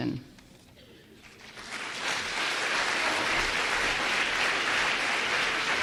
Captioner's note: applause